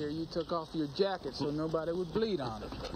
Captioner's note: man laughing